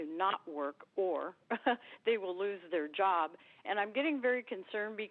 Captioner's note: laughs